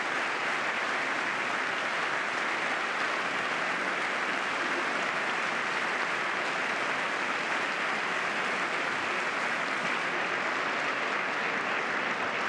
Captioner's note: applause